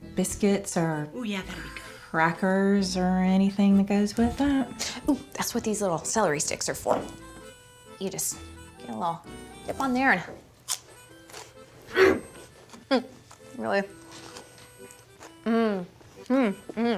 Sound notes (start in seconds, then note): 11.3 crunch